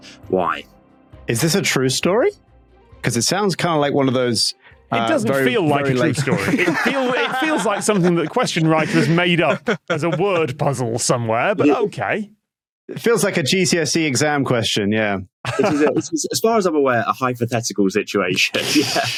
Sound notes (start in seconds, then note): 6.0 laughs heartily; 15.4 laughs